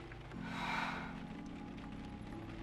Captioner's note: Sarah sighs